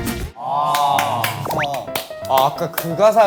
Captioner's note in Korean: 공감의 박수